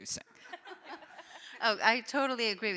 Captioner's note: audience laughing